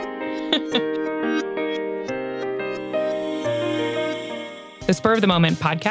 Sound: bright electronic music; chuckles

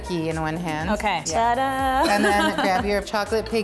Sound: laughs

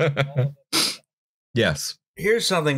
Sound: laughter

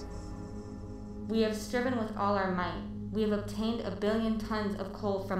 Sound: sound: possible drone from the robots

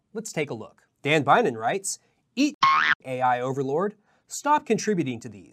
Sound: spring boinging

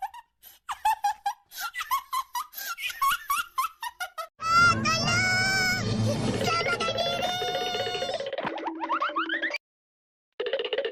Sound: laughs

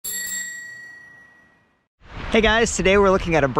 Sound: bicycle bell ringing

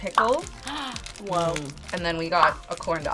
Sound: gasps

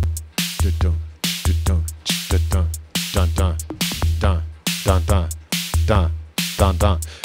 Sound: starts beatboxing

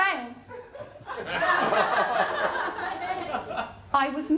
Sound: laughter

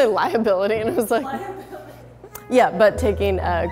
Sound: voiceover

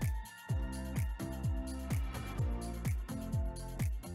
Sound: upbeat music; fingers snapping

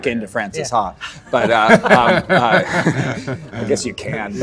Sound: Adam laughing

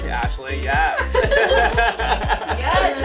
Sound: laughing

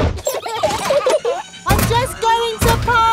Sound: children giggling

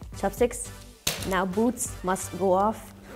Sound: chopsticks slam on floor

